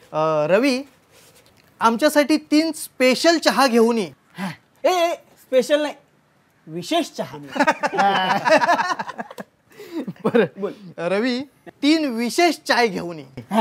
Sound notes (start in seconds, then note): 7.4 laughter